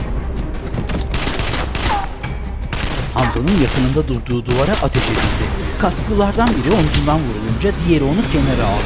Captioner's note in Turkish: Silah sesleri